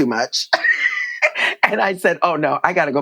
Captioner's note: laughter